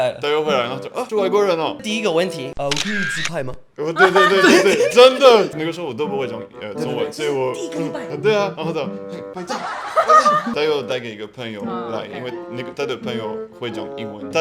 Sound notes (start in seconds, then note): 3.9 mixed emotions between laughing and crying